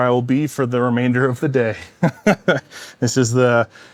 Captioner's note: laughs